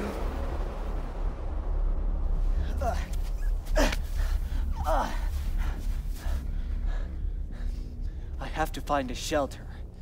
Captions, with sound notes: (Hero Grunting) I have to find a shelter.